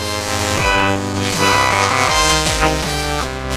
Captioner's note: growling